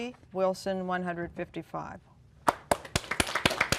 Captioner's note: applause